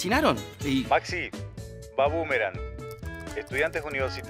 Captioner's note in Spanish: voz en off